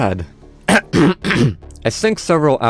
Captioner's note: clears throat